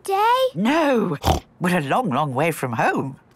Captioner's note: snorts